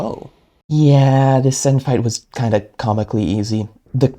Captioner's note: voiceover